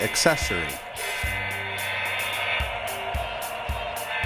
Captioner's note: train horn blast